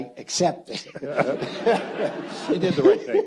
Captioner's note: audience laughs